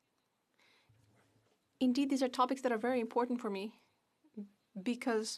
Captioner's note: speaking French